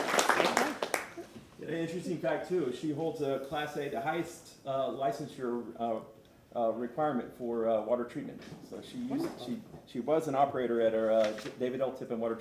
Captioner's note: applause